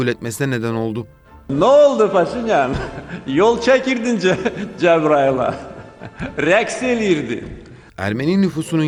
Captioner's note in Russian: На азербайджанском